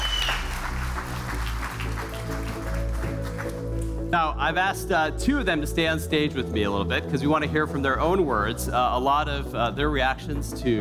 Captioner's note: cheers and applause